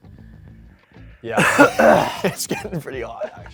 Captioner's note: cough from spice